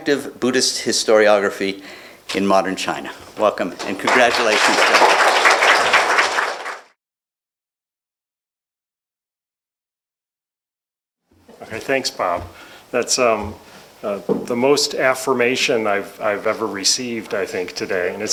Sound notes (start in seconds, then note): 3.7 applause